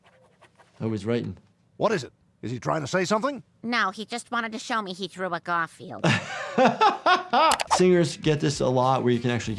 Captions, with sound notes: Now he's writing. - What is it? Is he trying to say something? - No, he just wanted to show me he drew a Garfield. (doctor laughs) - Singers get this a lot where you can actually